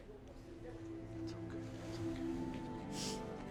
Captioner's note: Tommy whispers